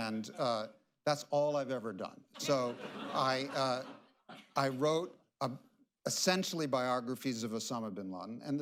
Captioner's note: laughter